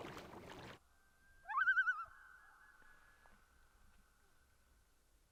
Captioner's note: loon calls intermittently